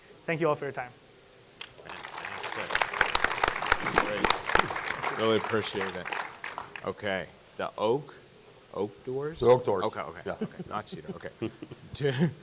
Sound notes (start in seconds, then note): 1.6 audience clapping